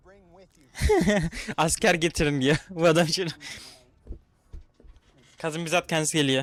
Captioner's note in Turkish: kahkaha